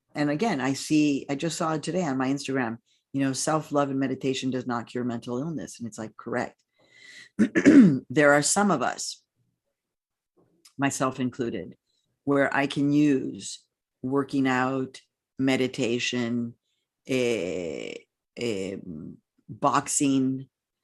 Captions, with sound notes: And again, I just saw today on my Instagram, you know, self-love and meditation does not cure mental illness. And it's like, correct. (clears throat) There are some of us, myself included where I can use working out, meditation, boxing,